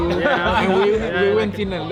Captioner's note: laughing